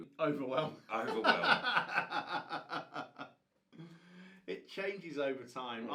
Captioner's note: laughs